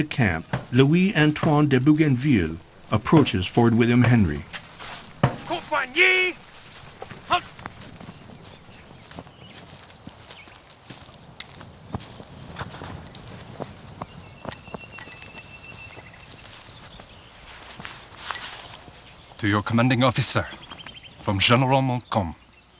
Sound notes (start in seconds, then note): 5.3 soldier shouting in French